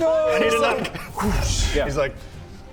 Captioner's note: whoosh